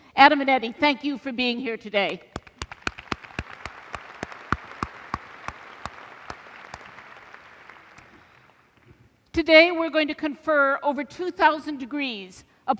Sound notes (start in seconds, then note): 2.3 applause